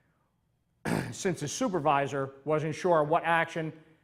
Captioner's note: clears throat